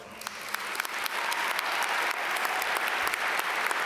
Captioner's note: audience applaud